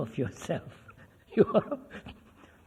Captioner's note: laughs